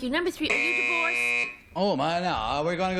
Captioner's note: buzz